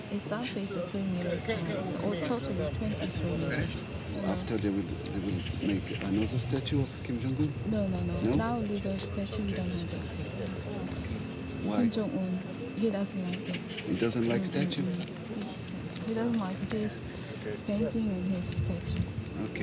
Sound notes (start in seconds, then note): 10.6 speaks faintly